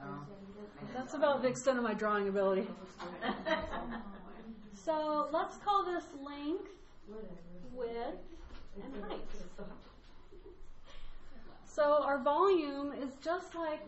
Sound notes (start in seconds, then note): 3.0 laughter